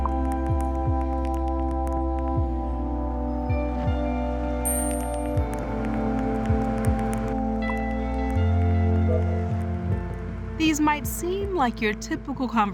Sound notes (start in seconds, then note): 5.2 keys tapping, beeping